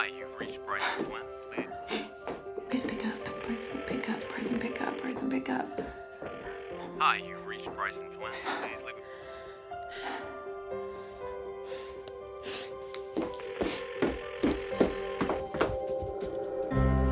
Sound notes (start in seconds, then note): 5.1 phone ringing; 13.7 phone ringing